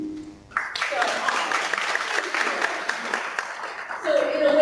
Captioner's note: clapping